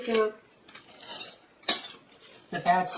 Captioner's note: clank